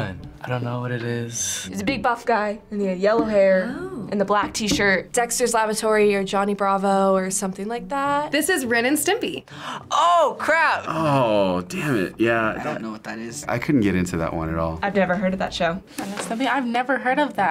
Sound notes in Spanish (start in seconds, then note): 9.7 jadeando